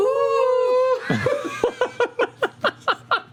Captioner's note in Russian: в унисон